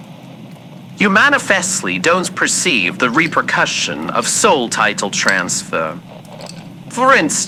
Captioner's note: ice cube in glass fx